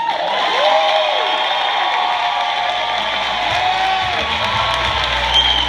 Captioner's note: cheers, applause